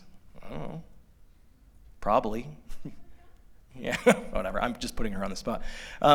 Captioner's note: laughter